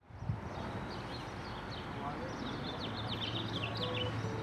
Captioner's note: birds chirping